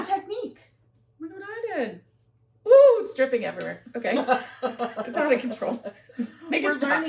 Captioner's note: laughter